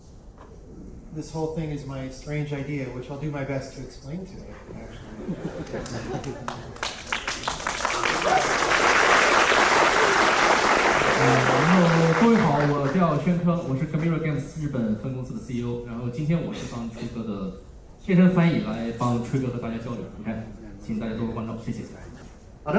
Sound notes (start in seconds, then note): 5.0 laughter; 5.7 applause